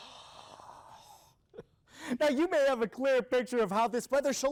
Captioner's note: reporter exhaling